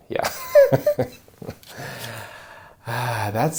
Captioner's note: laughs